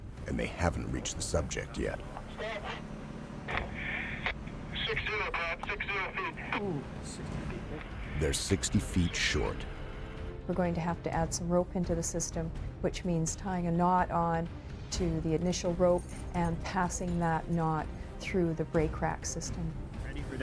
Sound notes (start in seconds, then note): 4.8 voiceover; 9.6 voiceover